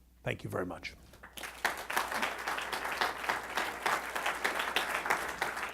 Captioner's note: applause